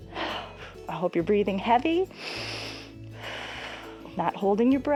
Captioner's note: inhales and exhales